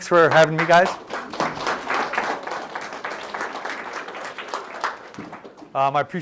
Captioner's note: applause